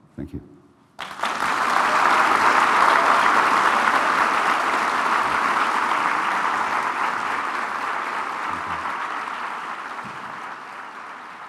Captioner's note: applause